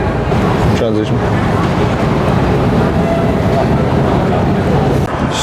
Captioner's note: bustling airport